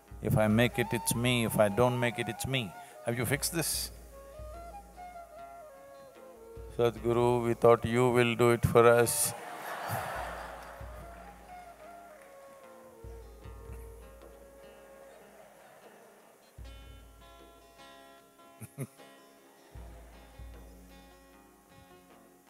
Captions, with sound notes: If I make it, it's me; if I don't make it, it's me. Have you fixed this? "Sadhguru we thought you will do it for us." (Laughter)